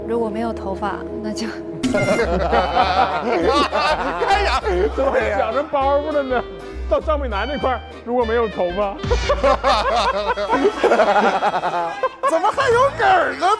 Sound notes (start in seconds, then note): 1.9 hahahaha